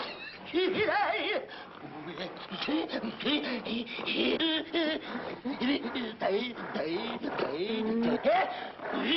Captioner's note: breathing heavily; jabbering; mumbling incoherently